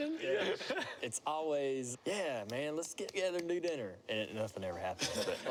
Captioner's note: laughter